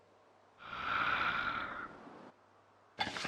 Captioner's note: zombie breathing